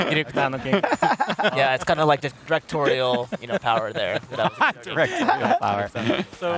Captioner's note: laughter